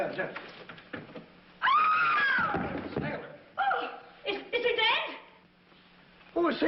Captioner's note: Kitty screams